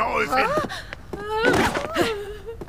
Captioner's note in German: Ängstliche Laute